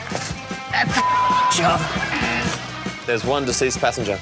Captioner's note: buzzer sounds